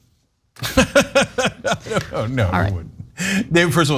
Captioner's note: laugh